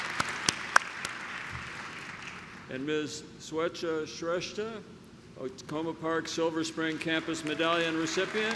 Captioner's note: clapping